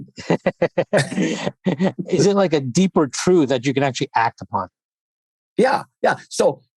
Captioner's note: laughs